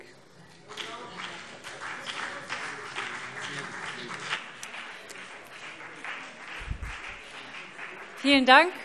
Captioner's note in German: Beifall BÜNDNIS 90/DIE GRÜNEN und vereinzelt CDU